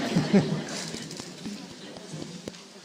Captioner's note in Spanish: Risas